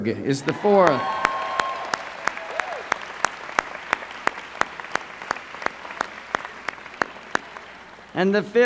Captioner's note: applause